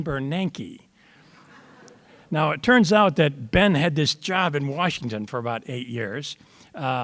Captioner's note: audience laughter